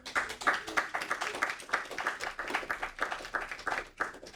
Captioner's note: audience applauding